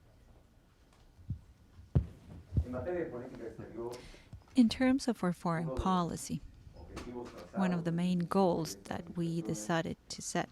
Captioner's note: through translator